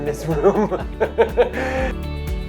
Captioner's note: laughing